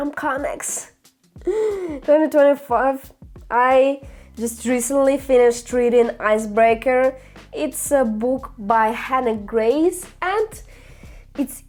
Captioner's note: sigh